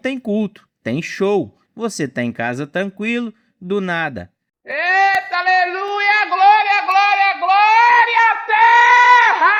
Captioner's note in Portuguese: grito